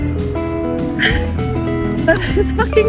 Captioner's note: sigh in going uphill; 叹气着爬坡